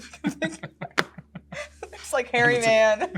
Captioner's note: laughs; laughs